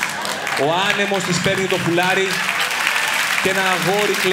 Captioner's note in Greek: χειροκρότημα